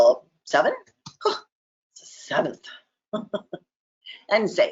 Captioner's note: chuckles